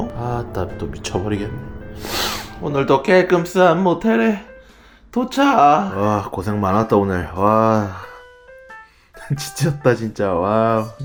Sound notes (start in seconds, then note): 2.0 sniff